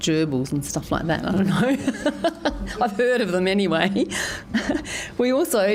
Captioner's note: laughs